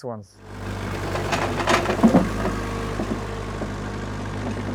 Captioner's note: engine revving